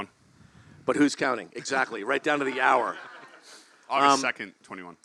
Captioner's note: laugh